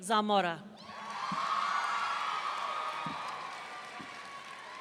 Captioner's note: audience cheering